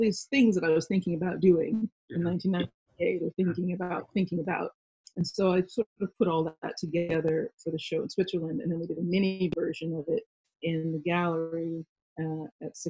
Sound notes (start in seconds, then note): none